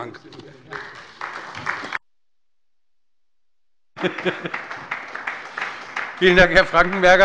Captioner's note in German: Beifall bei Abgeordneten der SPD